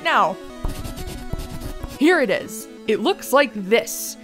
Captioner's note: pencil scratching sound